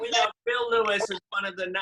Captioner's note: chatter